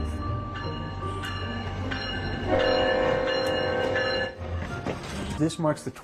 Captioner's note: upbeat music; train hooting and ringing